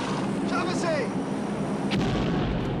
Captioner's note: plane engine; plane noise; boom